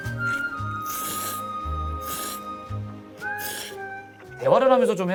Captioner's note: the sound of slurping fills the silent living room